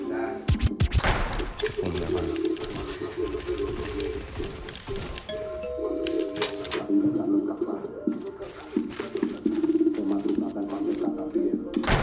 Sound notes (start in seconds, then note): 5.3 door bell